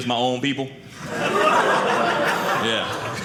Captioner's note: audience laughing